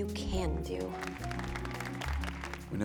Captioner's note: cheering